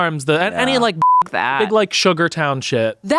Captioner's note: beep